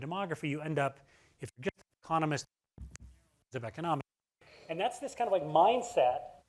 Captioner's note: audio cuts out